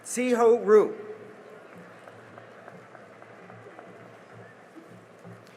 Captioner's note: cheering and applause